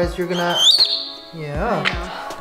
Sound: Leo chirps

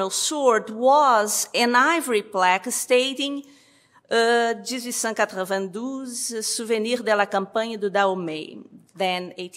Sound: french

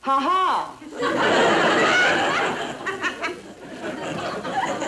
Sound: crowd laughing

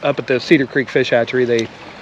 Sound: reel cranking

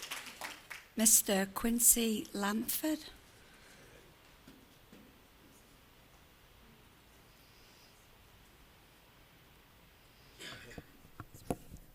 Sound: applause

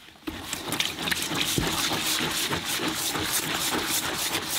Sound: brush scrubbing

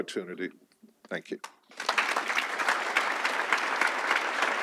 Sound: audience applauds

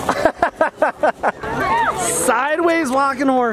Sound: laughs

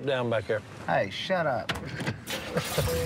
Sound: chuckles

